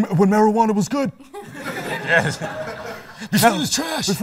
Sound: laughter

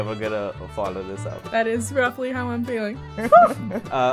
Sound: laughter

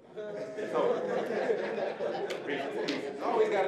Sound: audience laughing

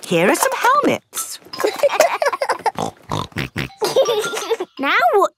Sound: laughing; snorting

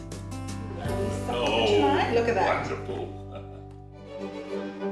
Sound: laughs; chuckles; cheerful classical music

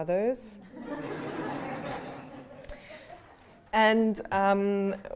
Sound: laughter

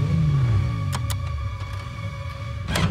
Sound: clicking

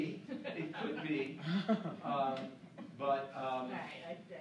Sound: laughing

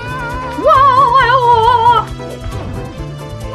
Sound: mario scream

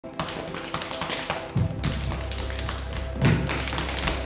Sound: rapid patting

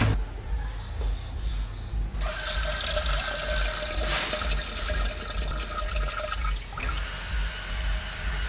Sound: urination

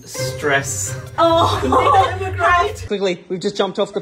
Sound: laughing

